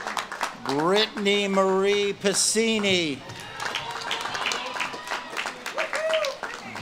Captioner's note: audience claps and cheers